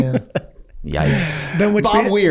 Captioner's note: Rob laughs